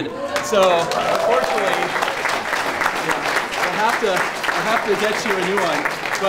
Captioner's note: applause